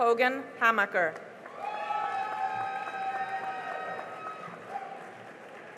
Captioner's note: cheering and applause